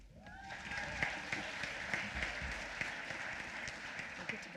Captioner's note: applause